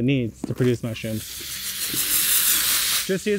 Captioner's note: water spraying